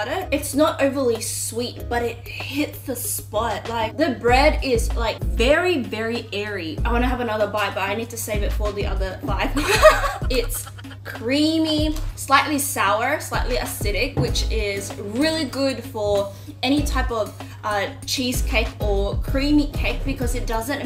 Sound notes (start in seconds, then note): 9.5 laugh